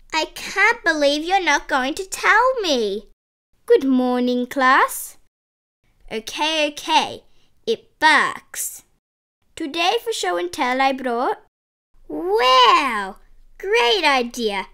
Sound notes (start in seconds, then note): none